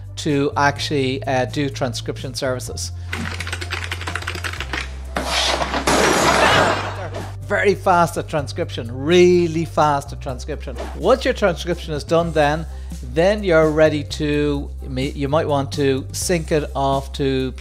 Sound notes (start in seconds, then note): 3.1 rapid typing; 5.1 computer crashing to floor